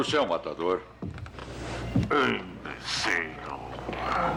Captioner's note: menacing Voice